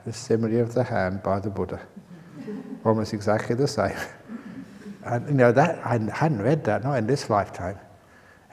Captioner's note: laughter